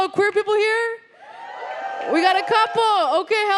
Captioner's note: audience woos